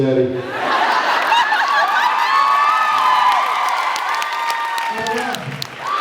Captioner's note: laughs, cheers, applauds